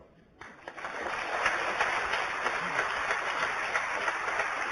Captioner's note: applause